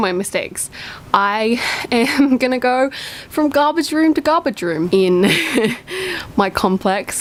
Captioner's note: laughs